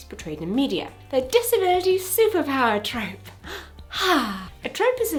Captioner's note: sighs